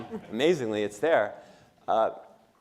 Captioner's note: laughter